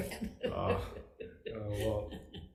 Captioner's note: chuckling